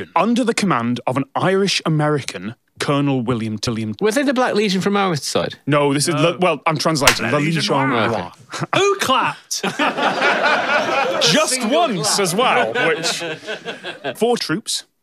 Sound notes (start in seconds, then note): 7.0 single clap; 9.6 everyone laughs; 13.3 giggles